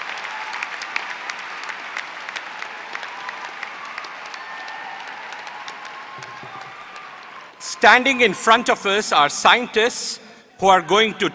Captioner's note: applause